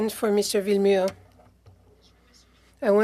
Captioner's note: speaking French